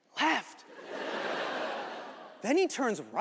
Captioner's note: audience laughing